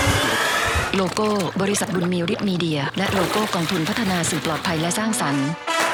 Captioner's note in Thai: เสียงน้ำ